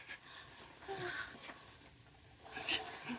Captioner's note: sighs